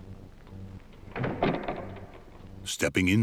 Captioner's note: door thuds